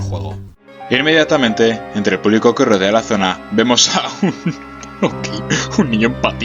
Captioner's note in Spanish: risas